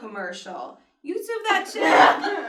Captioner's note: laughter